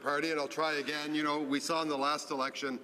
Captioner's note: speaking french